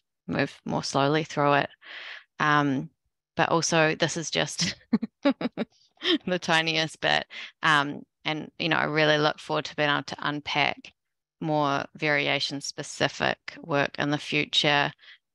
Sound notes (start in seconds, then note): 4.6 laughter